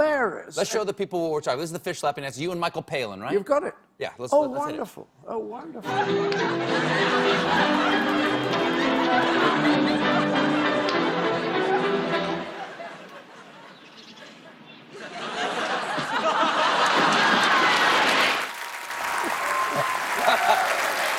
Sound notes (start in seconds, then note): 4.9 laughter; 14.3 applause